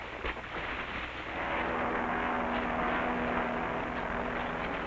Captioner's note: plane roaring